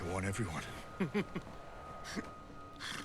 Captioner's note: ridley chuckles